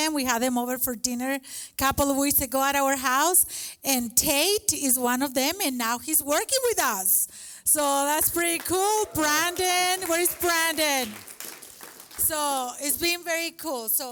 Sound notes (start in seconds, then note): 10.9 applause